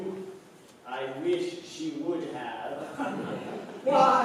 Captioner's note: laughter